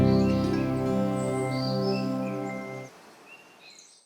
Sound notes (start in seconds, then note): 1.8 birds chirping